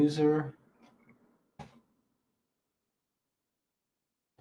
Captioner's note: keyboard clacking